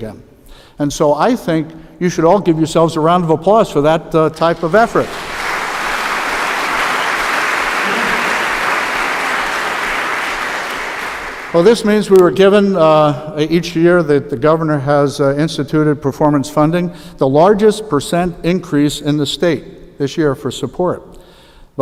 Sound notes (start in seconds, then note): 11.7 applause